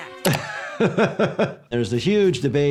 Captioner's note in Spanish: el doctor se ríe